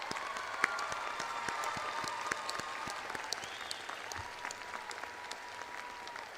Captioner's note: crowd applauds